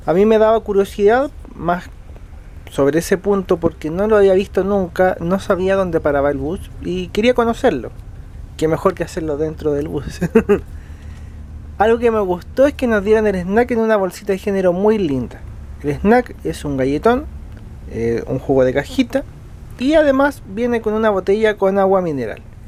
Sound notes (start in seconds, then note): 9.7 laughs